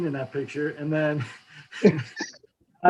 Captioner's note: laugh